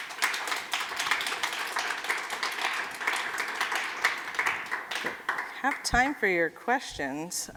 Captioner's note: applause